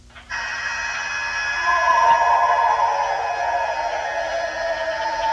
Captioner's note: eerie animal howling